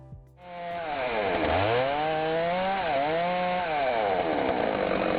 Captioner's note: chainsaw roaring